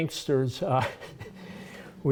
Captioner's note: laughter